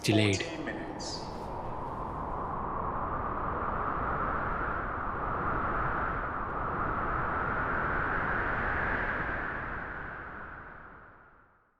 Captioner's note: heavy Wind Blowing